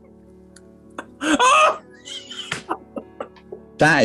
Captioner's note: hoots of laughter